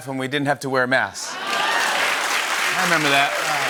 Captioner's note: cheers and applause